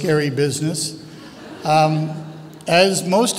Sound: audience chuckles

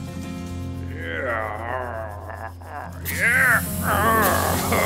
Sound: groaning; evil laughter

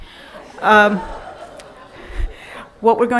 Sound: laughing

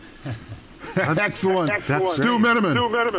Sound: laughing

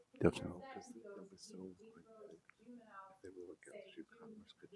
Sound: woman in sleeveless top speaks softly

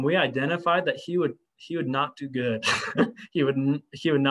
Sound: laughter

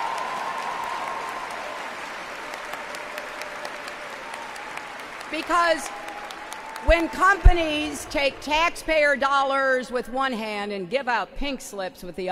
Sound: applause

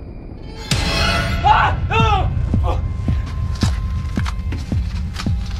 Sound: terrified screaming

